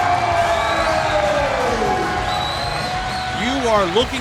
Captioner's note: crowd cheers